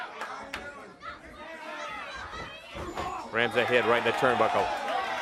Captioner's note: crowd chatter